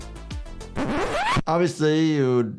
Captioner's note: record scratch